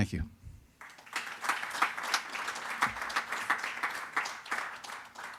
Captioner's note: audience applauding